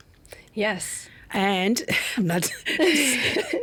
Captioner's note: laughing